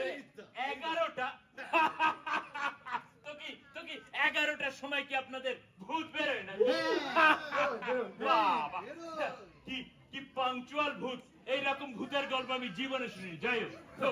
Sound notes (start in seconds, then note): 6.7 laughs hysterically